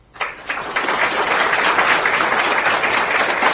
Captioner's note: crowd applauding